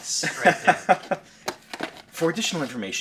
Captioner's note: laughing